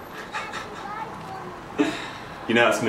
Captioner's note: laughing